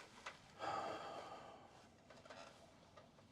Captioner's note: sighs